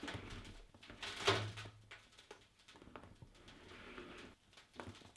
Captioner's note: crackling